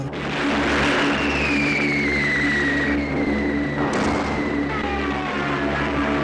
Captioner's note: explosions booming; artillery squealing